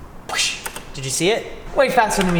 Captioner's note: mimics whooshing